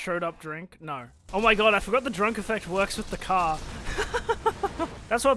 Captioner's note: laughs